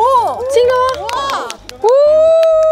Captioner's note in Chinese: 一陣猛拍手xd